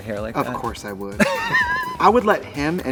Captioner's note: Katya laughs